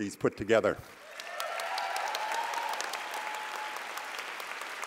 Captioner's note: applause